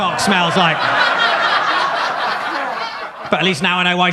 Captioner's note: audience laughs